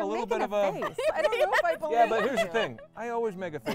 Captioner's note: laughing